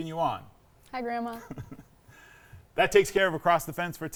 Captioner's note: laughing